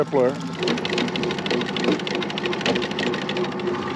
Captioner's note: winch motor running; reel cranking